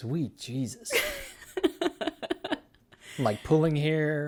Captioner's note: laughs